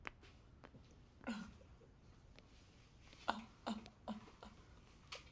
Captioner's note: sobbing